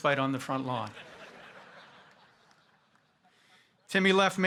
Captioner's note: audience laughing